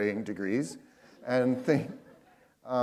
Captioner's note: laughter